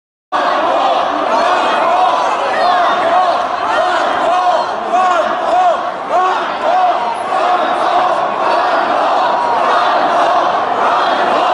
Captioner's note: crowd chants “ron paul!” “ron paul!” “ron paul!”